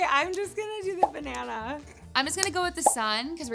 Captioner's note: notification popping; notification popping